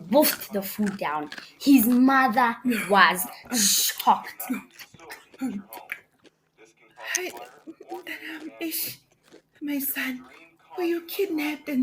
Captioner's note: sniffles